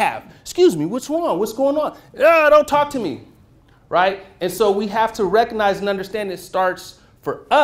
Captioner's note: yells